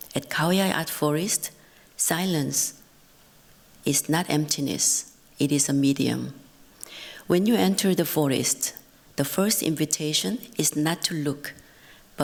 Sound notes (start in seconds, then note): none